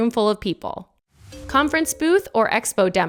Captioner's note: slide chiming